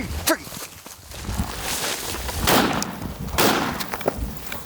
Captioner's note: gun firing